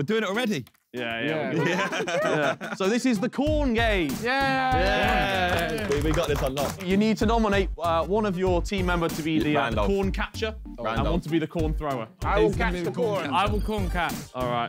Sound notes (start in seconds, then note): 4.4 men clapping